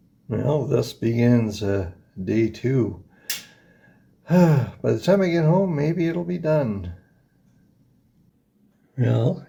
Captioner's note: sighs